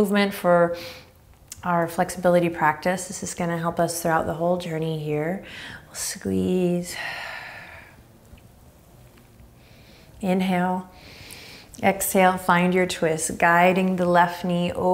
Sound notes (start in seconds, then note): 7.7 exhaling strongly; 10.9 inhaling deeply